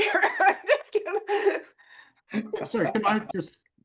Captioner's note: laughs